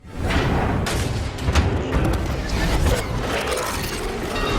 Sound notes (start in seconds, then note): 0.3 metal whirring